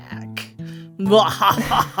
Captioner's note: evil laughter